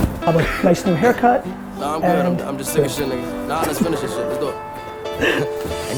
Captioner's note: laughs